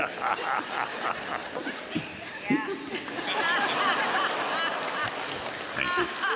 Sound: laughter

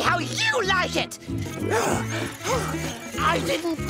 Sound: panting

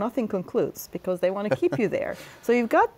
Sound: laughter

